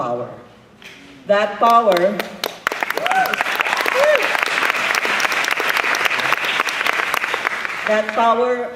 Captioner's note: applause